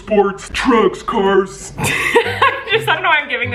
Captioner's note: laughs